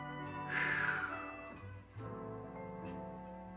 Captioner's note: sighs